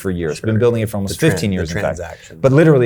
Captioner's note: Tom speaking over Chase murmuring